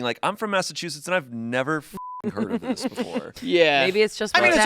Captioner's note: beep